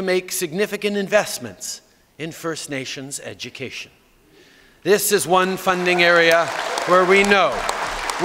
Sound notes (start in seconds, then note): 5.6 applause